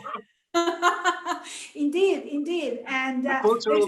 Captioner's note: laughs; laughs